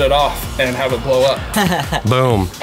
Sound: laughing

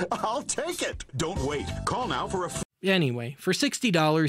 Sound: WebTV commercial, circa 1998, playing

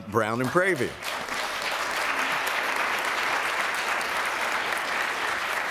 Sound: applause

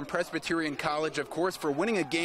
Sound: nats crowd

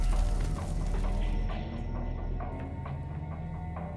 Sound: flames crackle

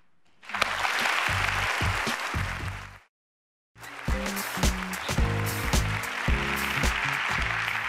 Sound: applause

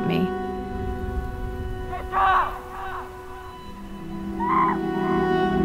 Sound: shouting

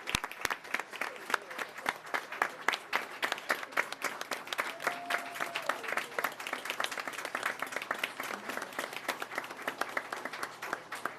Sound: applause

